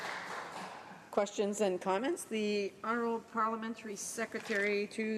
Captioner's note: some Applause